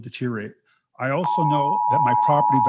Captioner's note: timer beeping